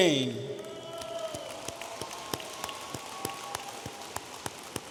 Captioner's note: audience applauding